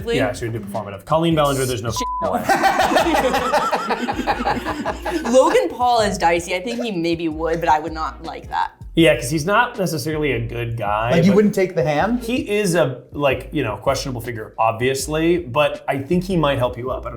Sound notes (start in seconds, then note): 2.3 laughing